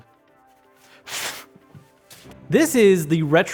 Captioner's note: blowing noise with mouth